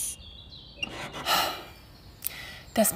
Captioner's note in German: seufzt